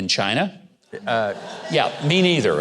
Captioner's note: audience laughing